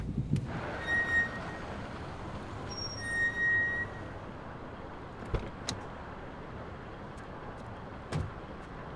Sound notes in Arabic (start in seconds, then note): 0.8 يفتح باب التاكسي ويغلق